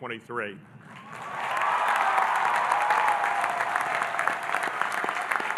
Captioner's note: audience applauding and cheering